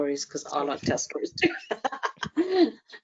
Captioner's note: laughs